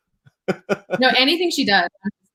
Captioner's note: laughs